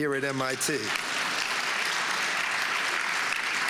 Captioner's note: applause